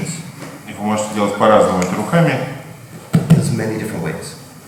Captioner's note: speaking in a foreign language